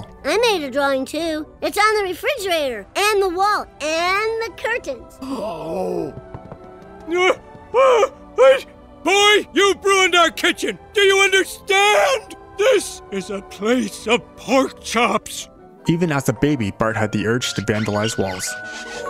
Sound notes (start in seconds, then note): 5.2 gasp; 6.9 groaning